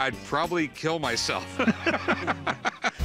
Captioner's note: laughing